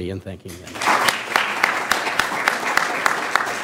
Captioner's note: applause